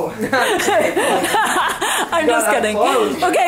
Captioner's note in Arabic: يضحك